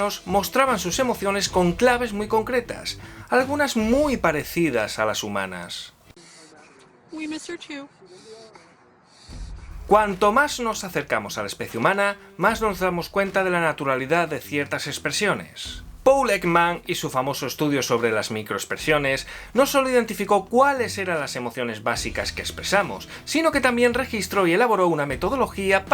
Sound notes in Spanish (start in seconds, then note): 8.0 perro llorando